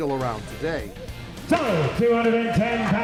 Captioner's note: auctioneer hammering